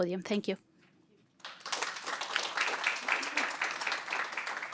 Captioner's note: applause